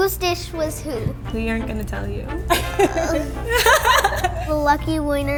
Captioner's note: laughing